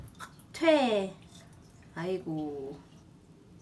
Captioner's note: pouring water